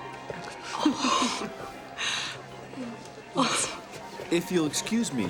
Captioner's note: laughing